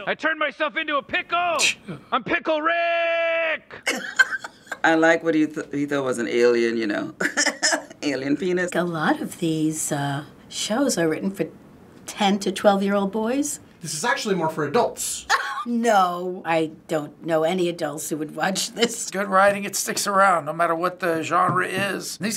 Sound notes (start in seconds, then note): 3.6 laughs; 7.2 laughs; 15.3 laughs